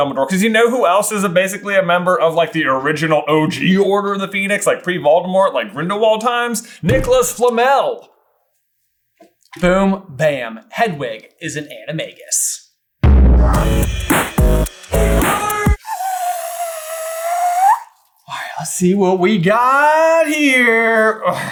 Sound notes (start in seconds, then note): 13.0 outro Theme Music; 15.0 reverse whistle